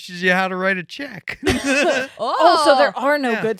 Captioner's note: laughing